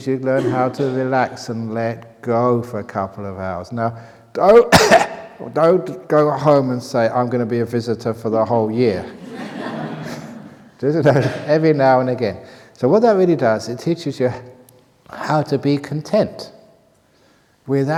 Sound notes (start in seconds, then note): 9.0 laughter